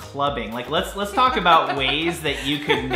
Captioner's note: laughter